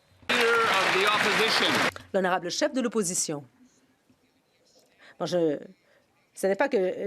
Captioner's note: some Applause